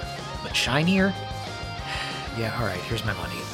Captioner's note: sigh